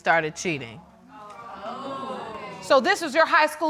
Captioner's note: audience exclaiming